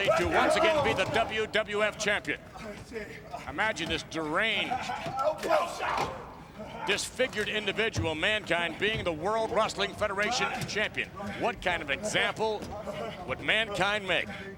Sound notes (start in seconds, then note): 5.9 The Rock and Mankind clattering